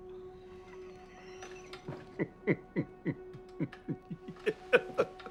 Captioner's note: laughing